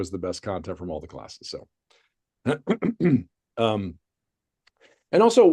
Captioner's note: clears throat